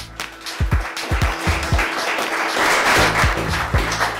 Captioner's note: applause